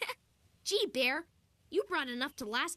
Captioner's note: giggles